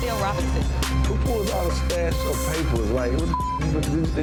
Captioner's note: beep